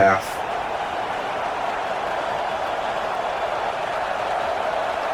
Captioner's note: crowd Noises